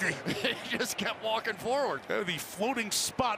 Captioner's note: laughing